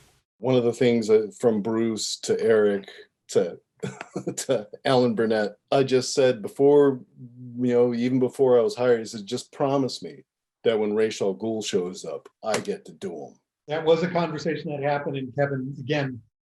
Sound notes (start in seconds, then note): 3.8 laughs